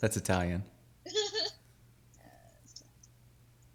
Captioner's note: laughing